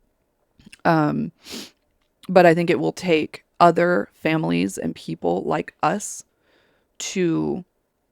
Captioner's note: sniffles